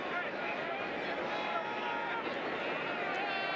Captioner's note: crowd cheering